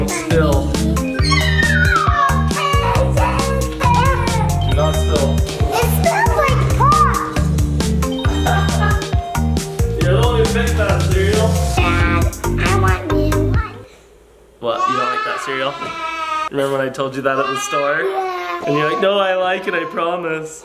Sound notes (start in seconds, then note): 1.2 screams; 8.2 laughs